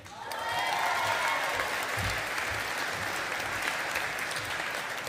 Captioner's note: audience applauding